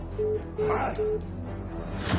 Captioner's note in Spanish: Pitido